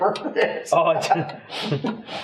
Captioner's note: laughs